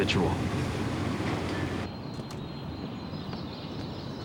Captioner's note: door closes